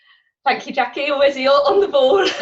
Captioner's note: laughs